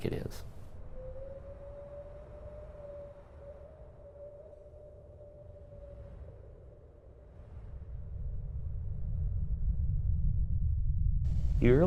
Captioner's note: background - whistling winds..airplane hum